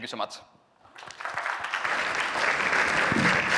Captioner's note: applause